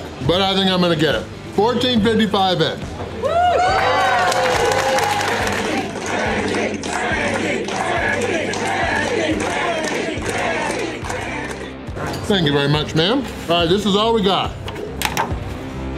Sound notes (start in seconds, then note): 3.3 crowd clapping and cheering; 6.0 crowd